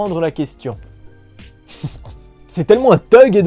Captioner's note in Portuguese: risos